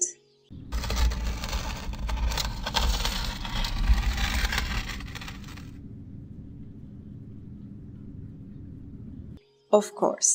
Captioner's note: stone scraping